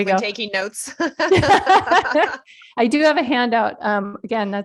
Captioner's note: laughter